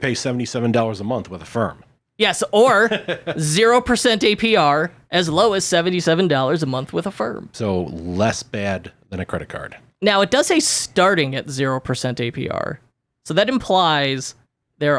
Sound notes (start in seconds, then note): 2.6 laughs